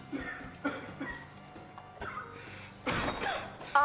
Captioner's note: Ozz coughing